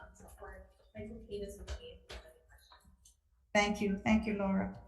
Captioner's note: speaks faintly